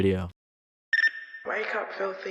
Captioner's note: beeping sound